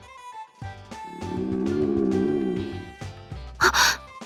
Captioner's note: growl